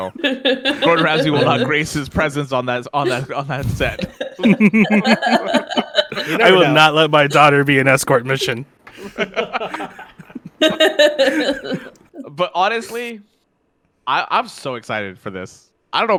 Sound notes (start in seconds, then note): 3.8 laugheter; 5.1 as Gordon Ramsay; 8.9 laughter